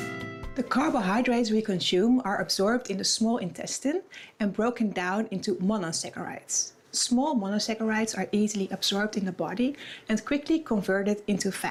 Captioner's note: voiceover